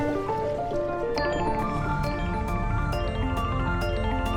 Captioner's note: rocket roaring; water swooshing